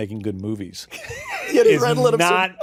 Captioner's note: laughter